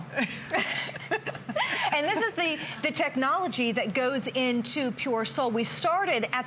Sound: laughter

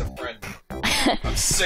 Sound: laughs

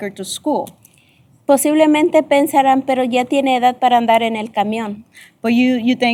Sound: speaking spanish

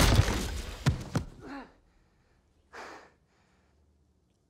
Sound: he breathes heavily

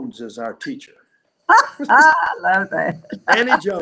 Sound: laughing

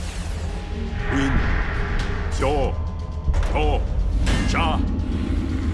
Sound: speaking Japanese

